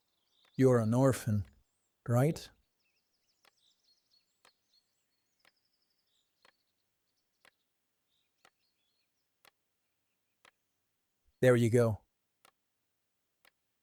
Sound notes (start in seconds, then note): 3.7 watch ticking